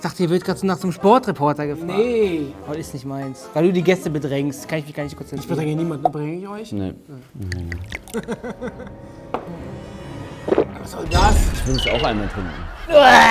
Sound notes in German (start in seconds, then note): 8.2 Beklemmende Musik; 9.8 Schlucken